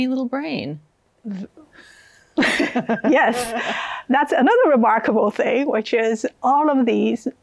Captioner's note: laughs